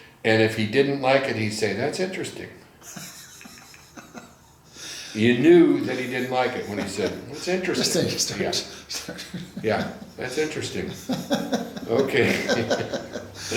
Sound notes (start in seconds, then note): 2.8 laughs; 9.2 laughs; 11.2 laughing